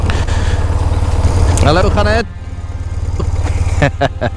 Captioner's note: chuckle